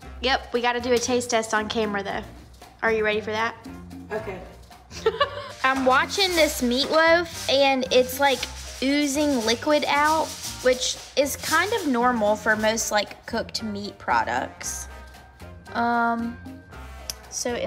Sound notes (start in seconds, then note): 4.9 daughter laughs